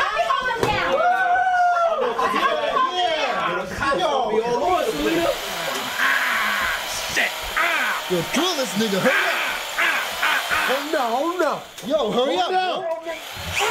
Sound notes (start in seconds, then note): 6.3 drill; 13.4 screaming